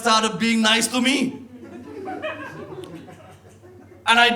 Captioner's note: audience laughs